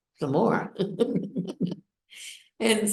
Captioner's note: laughs